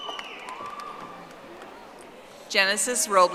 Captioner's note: audience applauding